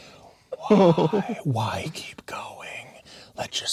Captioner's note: chuckling